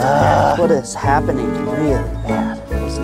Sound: groans

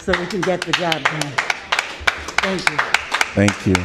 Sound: applause

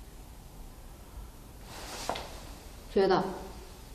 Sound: faint breath exhales

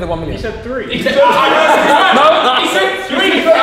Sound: group laughs

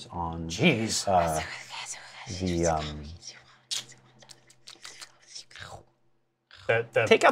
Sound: whispers; lip smacking & chomping sounds

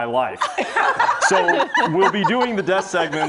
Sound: laughter

